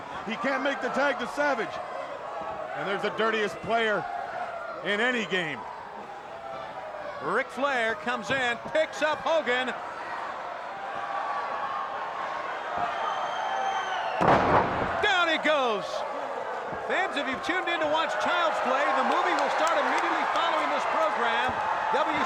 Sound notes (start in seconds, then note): 10.5 crowd roaring; 14.2 body slams